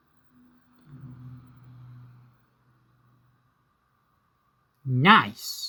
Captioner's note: mini pc fan noise